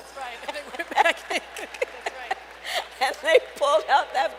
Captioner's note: laughter